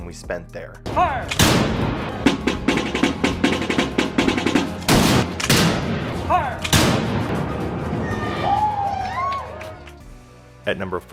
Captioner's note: musket firing